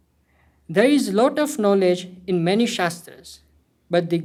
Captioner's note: hindi